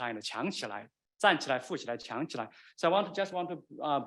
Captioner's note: man speaking Chinese dialect